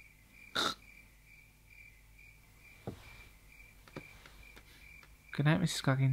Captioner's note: snorting sound